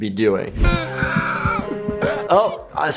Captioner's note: heart beats fast; dramatic music